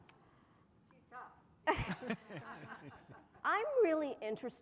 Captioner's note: laughter